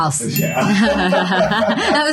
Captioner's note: laughter